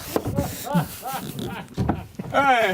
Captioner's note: laughter